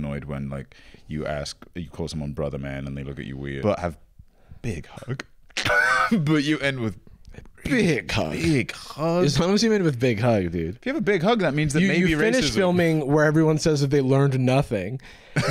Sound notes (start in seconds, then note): 5.5 laughs; 15.1 laughs